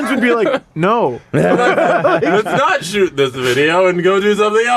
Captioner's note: laughter